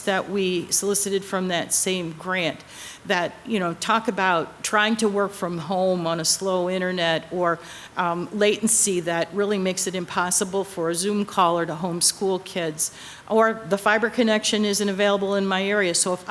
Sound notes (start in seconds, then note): none